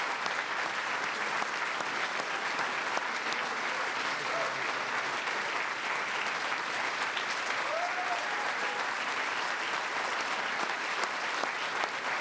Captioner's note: applause